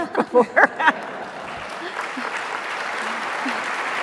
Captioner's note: laughter; applause